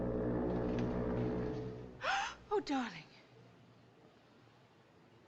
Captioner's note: foghorn Blows; gasps